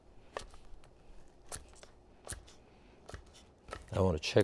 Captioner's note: bread crunching